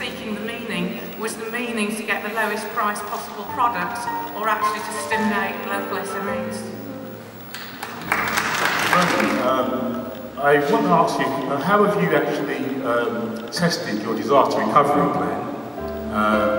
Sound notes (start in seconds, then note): 7.5 crowd applaud in agreement